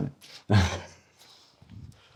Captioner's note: laughing